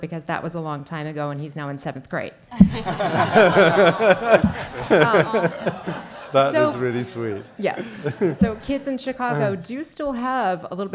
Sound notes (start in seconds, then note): 2.6 audience laughing